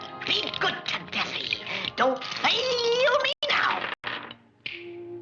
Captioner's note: french accent